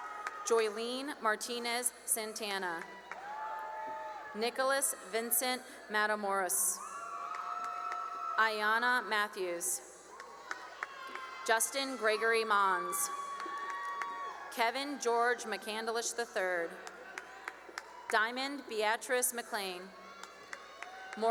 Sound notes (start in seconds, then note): 0.0 cheering and applause; 2.3 cheering and applause; 12.9 cheering and applause; 16.4 cheering and applause; 19.6 cheering and applause